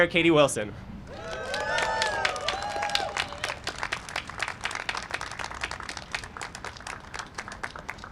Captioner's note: cheering and applause